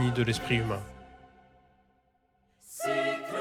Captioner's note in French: chant